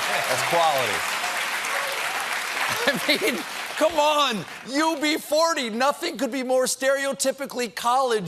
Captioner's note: applause